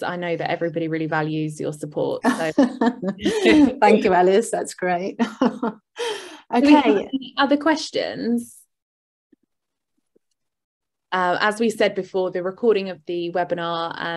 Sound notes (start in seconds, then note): 2.3 chuckles; 5.3 chuckles